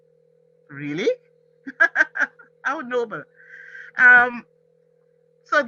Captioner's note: laughs